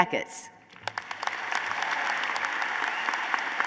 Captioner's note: applause